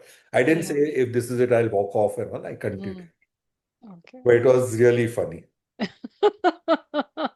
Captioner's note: laughter